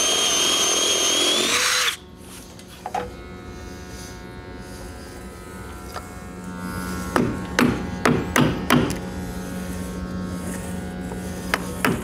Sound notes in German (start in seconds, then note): 3.5 Leises Surren im Hintergrund